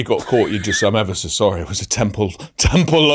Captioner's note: laughs